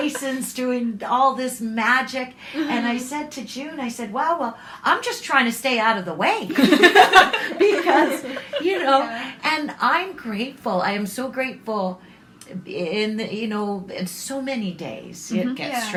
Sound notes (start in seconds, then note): 6.5 laughter